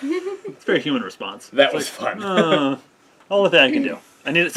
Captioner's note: laughs; groans